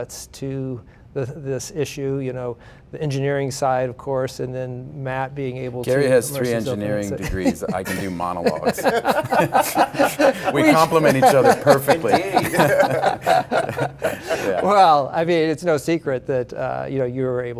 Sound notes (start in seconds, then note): 9.2 laughter; 12.7 laughter